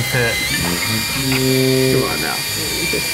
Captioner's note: horn sounding